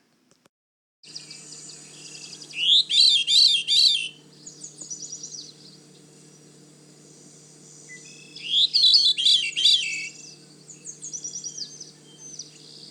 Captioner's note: veery singing with short pauses between phrases